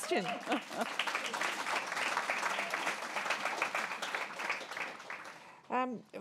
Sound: applause

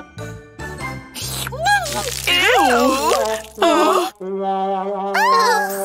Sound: taking a sip

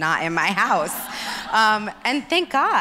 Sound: audience laughs

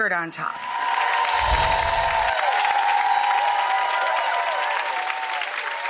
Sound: clapping and cheering; chimes ring

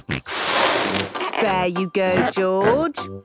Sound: George snorts

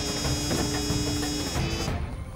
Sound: door closes

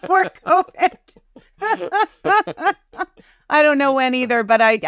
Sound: both laughing

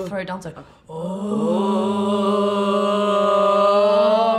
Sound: humming

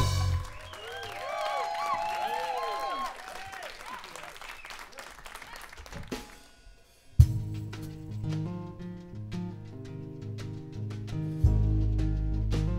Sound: applause

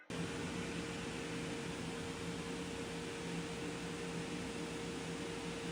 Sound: turning on the bouncy castle early in the morning

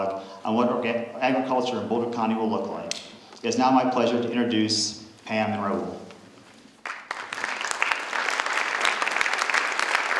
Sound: applause

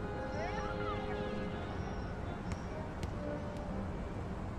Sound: ball thudding

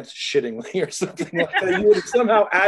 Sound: laughter

